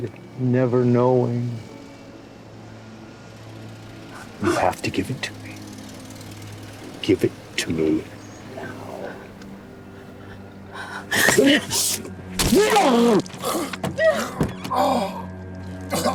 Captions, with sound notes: never knowing. You have to give it to me. Give it to me now! (fleshy sucking) (choking)